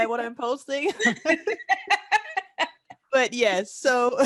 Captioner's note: laughter